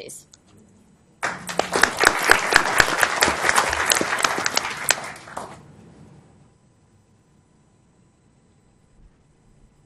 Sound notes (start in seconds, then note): 1.2 applause